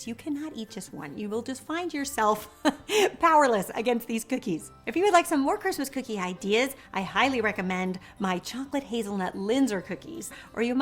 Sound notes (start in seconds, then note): 2.5 chuckling